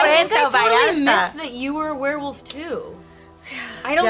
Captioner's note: none